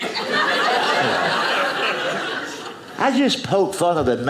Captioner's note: audience laughing